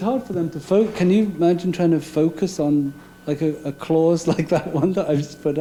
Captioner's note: laughing